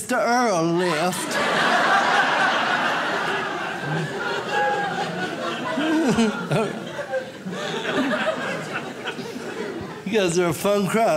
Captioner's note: audience laughs